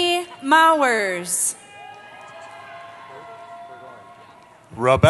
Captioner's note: cheering